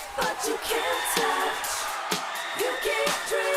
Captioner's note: crowd cheering